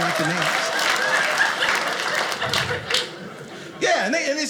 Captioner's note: audience applauding